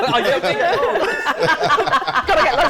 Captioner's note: laughter